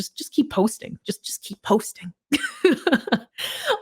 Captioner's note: laughs